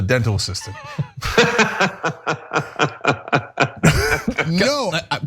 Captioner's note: laugh